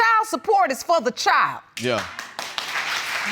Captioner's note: audience applauds